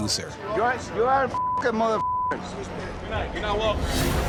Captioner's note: beep